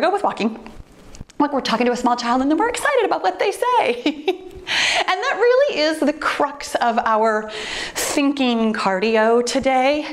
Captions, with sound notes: So here we go with walking. Like we're talking to a small child and then we're excited about what they say (laughs). And that really is the crux of our thinking cardio today.